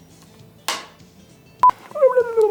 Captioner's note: board claps; beeps